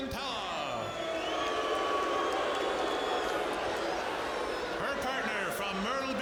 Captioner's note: audience jeering